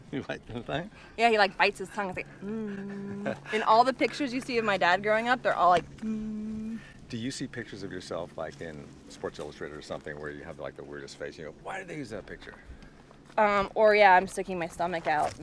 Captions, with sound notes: - He bites his tongue? - Yeah, he like bites his tongue he's like. In all the pictures, you see of my Dad growing up, they're all like. (humming) - Do you see pictures of yourself, like in Sports Illustrated, or something where you have the, like the weirdest face. Why'd they use that picture? - Or yeah, I'm sticking my stomach out,